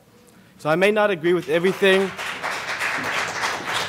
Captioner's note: applause